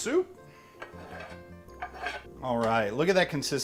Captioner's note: mellow music; scrapping